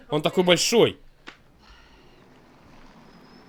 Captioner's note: sighs